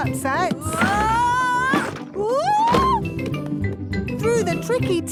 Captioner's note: wood teetering